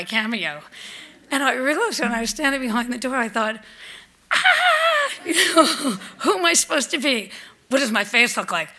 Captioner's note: shrieks